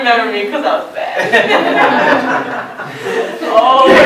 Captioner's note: laughter; laughing